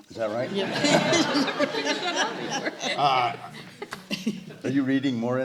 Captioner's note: laughter